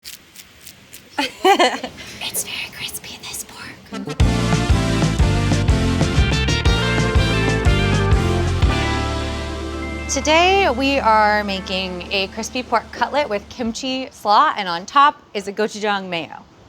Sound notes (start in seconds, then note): 0.0 pork cutlet crackling; 1.1 laughing; 4.1 upbeat jazz music